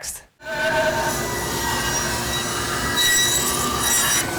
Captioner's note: tool squealing